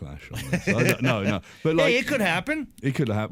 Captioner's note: laughter